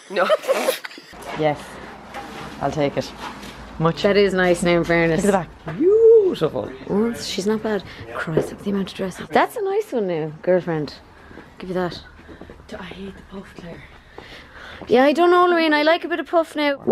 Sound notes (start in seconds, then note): 0.1 laughter